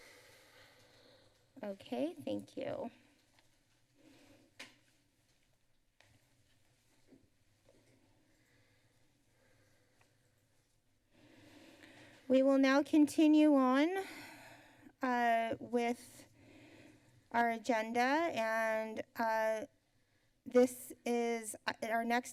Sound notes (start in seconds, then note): 3.1 silence